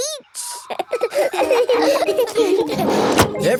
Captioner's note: all laughing